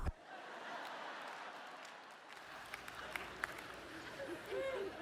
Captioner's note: laughter